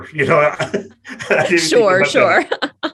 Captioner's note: laughs